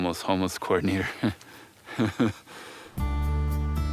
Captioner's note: laughing; light music